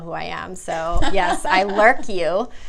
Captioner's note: laughs